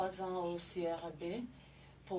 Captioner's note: speaking French